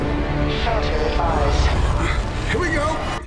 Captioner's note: wind blowing